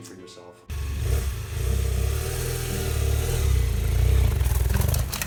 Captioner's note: motorcycle engine roaring